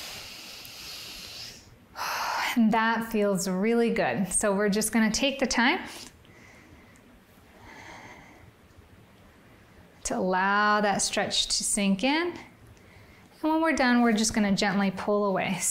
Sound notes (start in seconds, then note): 0.0 inhales; 2.2 exhales